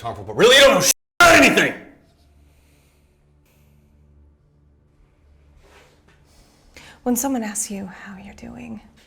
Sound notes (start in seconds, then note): 2.5 both breathe uneasily